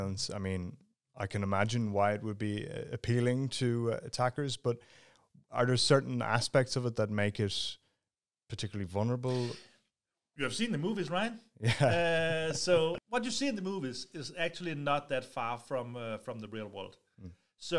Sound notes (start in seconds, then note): 11.6 chuckles